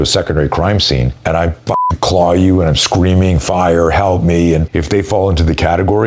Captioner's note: beep